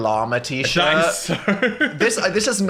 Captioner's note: laughs